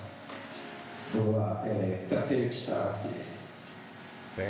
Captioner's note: speaking foreign language